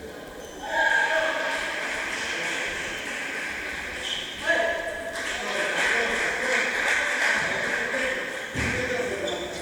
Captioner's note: applause